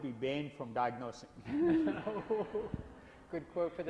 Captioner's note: laughs